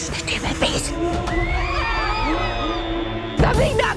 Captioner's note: crowd screaming